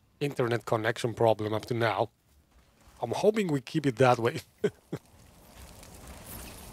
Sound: laughs

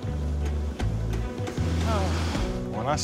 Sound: sighs

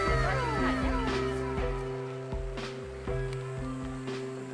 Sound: laughs

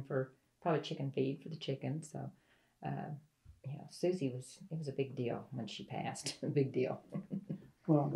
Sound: laughs

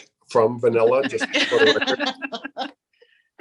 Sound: laughter

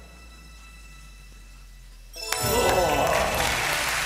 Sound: chiming; applauding

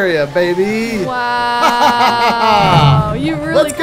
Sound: laughs

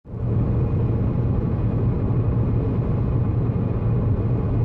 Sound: car accelerating

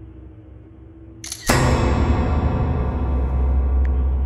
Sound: suspenseful music; camera shutter

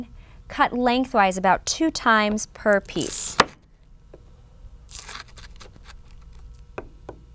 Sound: crunching

